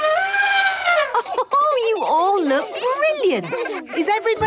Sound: trumpeting; Mummy Pig laughing

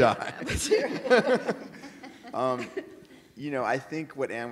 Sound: audience laughing

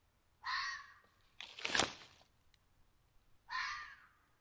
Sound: animal cries

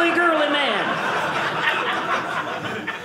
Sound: audience laughing

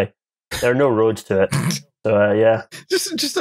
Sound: snorts

